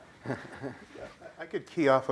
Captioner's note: laughter